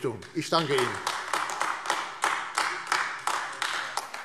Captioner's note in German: Beifall AfD